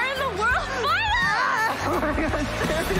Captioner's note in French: screams